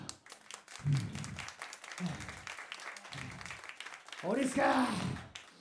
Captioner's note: applause